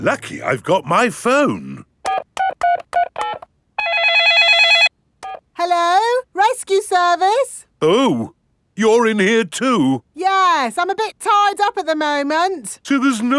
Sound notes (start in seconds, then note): 2.0 dialing; 3.8 cell phone ringing